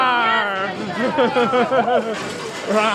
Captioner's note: laughing